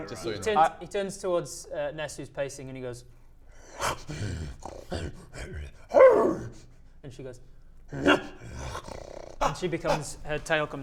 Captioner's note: snarl, grrrr, howl; bark, grrrrrr